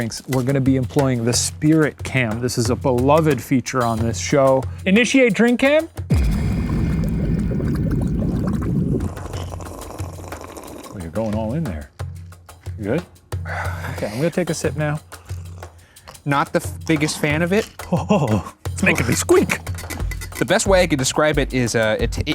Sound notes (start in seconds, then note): 6.1 liquid bubbles; 9.6 slurps drink; 13.5 groans; 17.7 groans; 19.9 chair squeaks